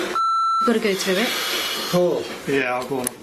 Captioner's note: beep